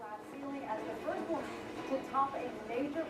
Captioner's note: TV playing